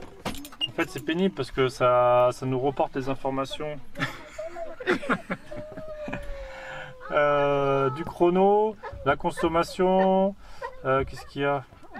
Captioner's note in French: rires